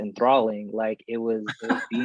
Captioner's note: laughs